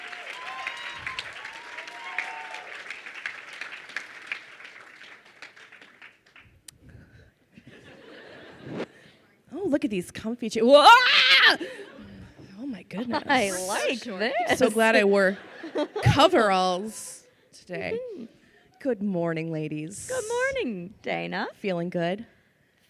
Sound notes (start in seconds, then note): 0.0 crowd cheering and applauding; 7.6 crowd laughs; 10.8 screams